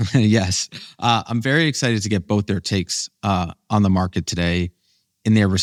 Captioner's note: laughs